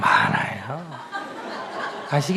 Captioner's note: audience Laughter